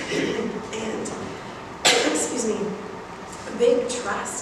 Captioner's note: coughs